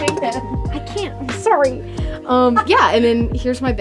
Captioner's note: laughs